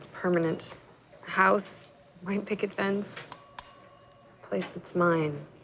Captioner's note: order bell dings